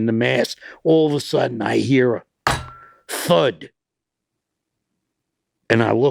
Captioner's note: table bangs loudly